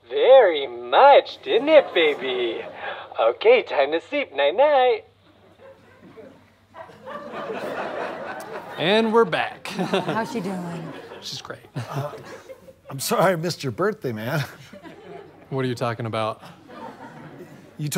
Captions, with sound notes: Very much, didn't it, baby? Okay, time to sleep, night, night! [audience laughter] And we're back. - How's she doing? - She's great. - I'm sorry I missed your birthday, man. - What are you talking about?